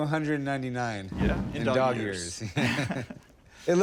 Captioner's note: laughter